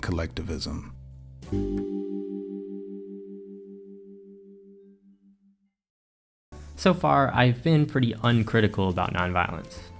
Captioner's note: transition Ding